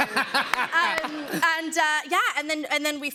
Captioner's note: laughter